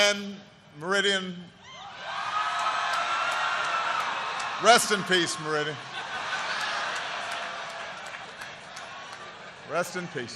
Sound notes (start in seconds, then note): 2.4 applause; 5.7 laughter